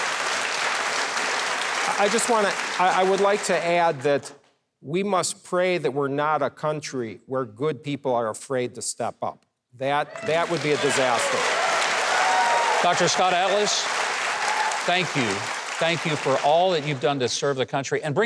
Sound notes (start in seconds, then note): 10.0 audience applauds